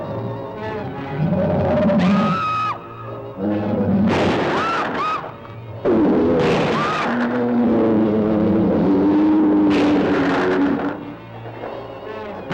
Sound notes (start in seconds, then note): 2.1 Nora screaming; 2.1 Nora screams; 4.0 shots firing; 7.4 lizard bellowing; 7.4 shots firing